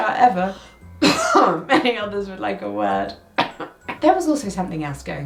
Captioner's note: coughing